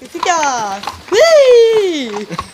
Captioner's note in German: Jubel